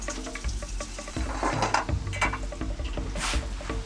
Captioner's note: pans sizzling